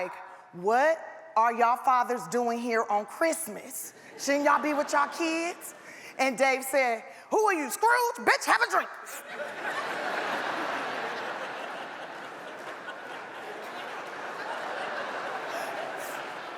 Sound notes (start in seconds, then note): 9.2 audience laughs